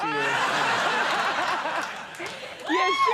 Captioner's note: audience laughing